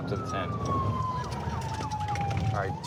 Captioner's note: sirens